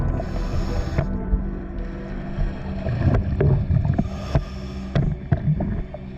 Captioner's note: underwater sounds continue